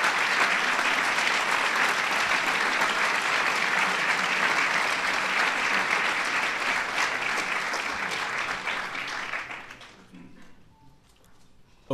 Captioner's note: applause